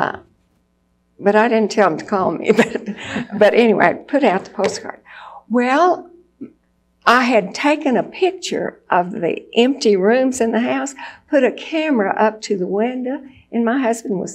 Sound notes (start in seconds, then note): 2.5 laughs